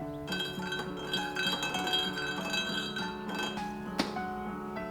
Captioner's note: spoon stirs in tea cup